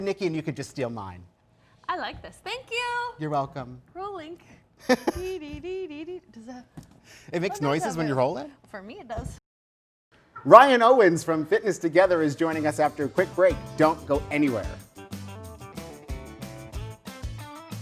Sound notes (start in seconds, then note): 4.8 laughing; 5.8 mumbles; 15.0 lively music